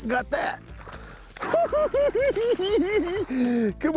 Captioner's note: cackling